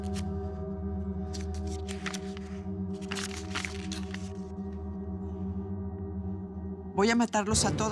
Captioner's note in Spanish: ruido al cerrar; ruido al abrir la hoja